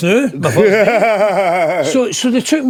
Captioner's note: laughing